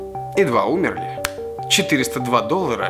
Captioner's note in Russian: Щелчок пальцами